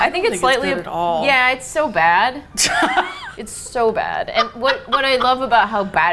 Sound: laughs

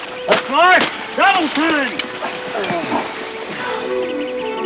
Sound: man's voice; man groaning; boots stomping; flowy music

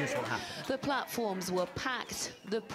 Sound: crowd yelling

